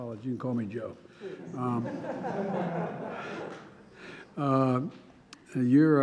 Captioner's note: laughter